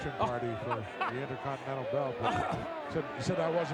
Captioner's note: laughing